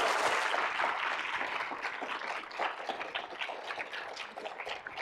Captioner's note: audience applauding